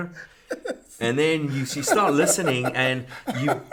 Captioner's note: laughs